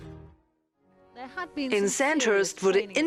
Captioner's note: voiceover